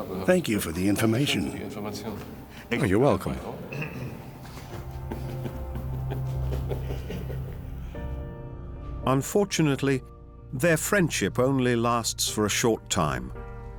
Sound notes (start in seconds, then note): 3.7 chuckles